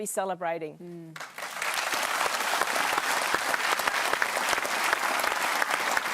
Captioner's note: applause